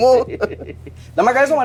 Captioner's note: laughs